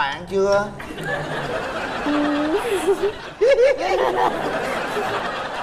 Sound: laughter

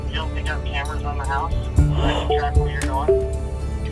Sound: gasps

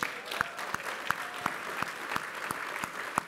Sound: applause

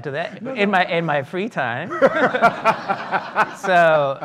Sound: audience laughing

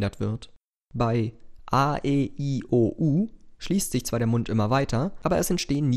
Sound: in German

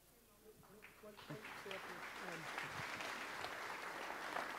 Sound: audience applauds

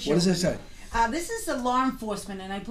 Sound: voiceover

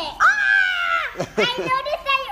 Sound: exclaiming

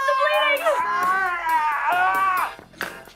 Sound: PIERCE screams

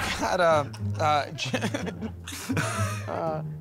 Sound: laughter

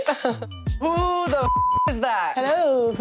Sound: beep

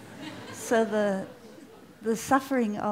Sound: laughter

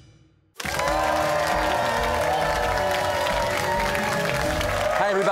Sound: cheers and applause

